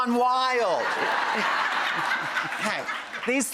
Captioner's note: audience laughs